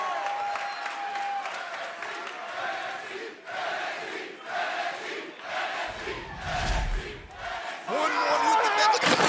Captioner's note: crowd cheering